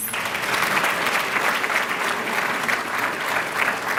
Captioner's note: applause